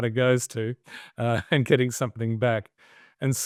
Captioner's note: chuckles